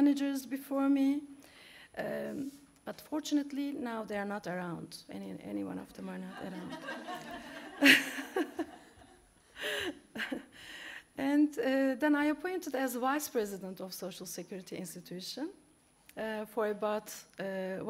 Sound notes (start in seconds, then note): 6.4 laughs